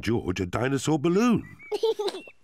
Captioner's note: giggles